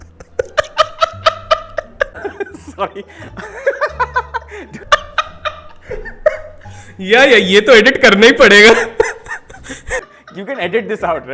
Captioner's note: laughing